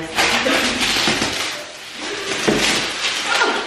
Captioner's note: plastic rustles; grunts